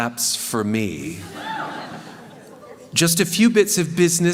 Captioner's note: cheering